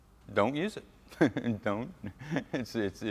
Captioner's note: laughs